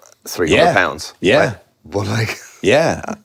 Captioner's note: laughs